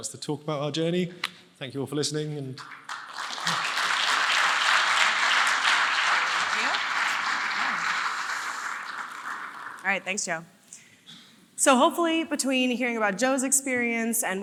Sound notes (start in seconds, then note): 2.6 audience applauding